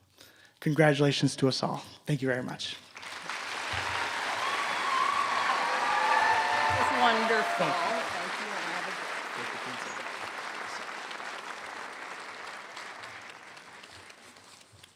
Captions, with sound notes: Congratulations to us all. Thank you very much. (Applause)